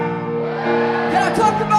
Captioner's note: audience cheers